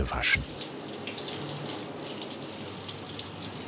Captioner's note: splashing water